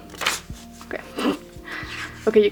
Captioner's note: snorts